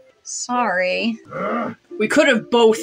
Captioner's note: Jæmis Growls